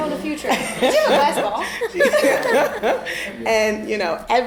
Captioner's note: all laughing